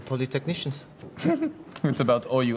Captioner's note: <i> chuckles</i>